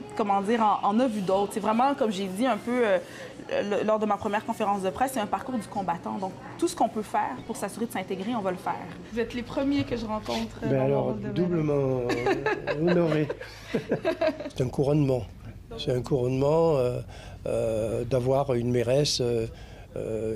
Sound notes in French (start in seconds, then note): 12.0 rires